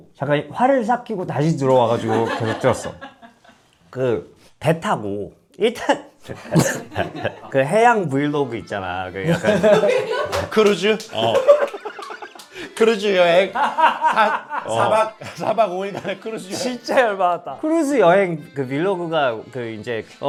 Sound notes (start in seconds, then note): 13.6 bursting into laughter